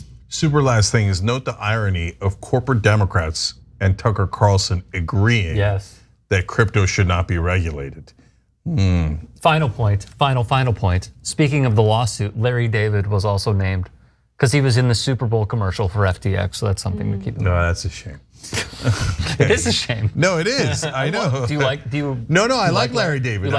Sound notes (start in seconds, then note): 18.6 laugh